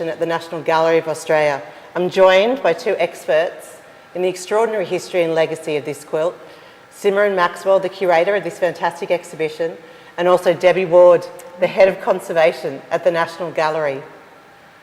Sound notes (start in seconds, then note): none